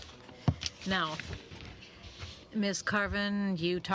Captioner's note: speaking French